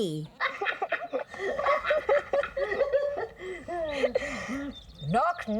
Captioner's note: laughing